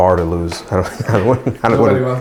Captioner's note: laughs